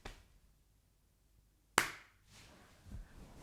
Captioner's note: clap